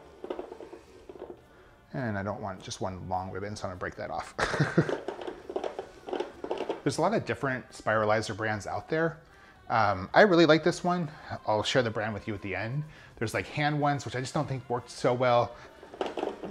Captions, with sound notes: And I don't want just one long ribbon, so I'm gonna break that off. (laughs) There's a lot of different spiralizer brands out there. I really like this one. I'll share the brand with you at the end. There's like hand ones, which I just don't think works so well.